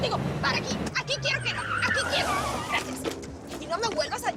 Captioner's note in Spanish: Chirrido de llantas